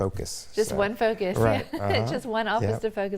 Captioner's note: laughs